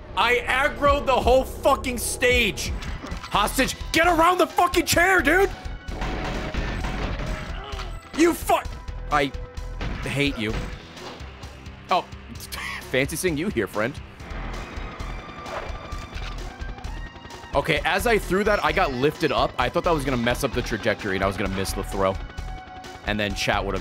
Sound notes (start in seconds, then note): 10.8 laughs